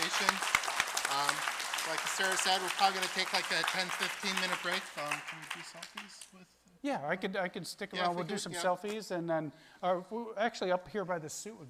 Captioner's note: applause